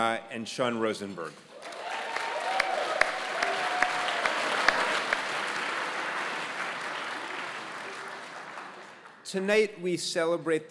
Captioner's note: applause